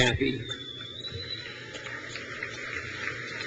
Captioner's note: crowd cheers